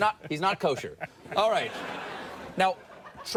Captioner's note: audience laughs